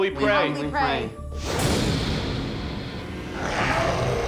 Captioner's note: swooshing; growling